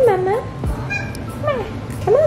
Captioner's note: Aila meows